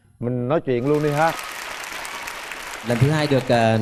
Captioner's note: applause